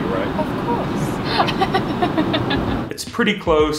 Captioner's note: laughs